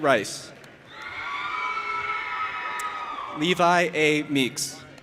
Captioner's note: audience applauding and cheering